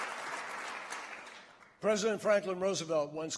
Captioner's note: applause